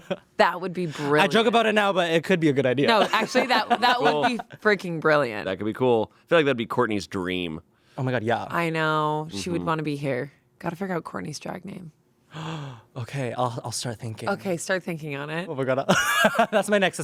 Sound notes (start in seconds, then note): 12.3 gasps; 16.3 laughs